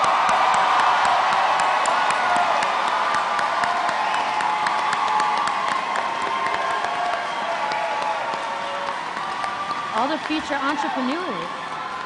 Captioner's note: cheers and applause